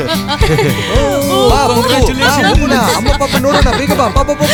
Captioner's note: laughs and screams all around